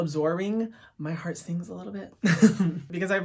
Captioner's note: laughs